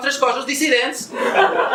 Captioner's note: laughs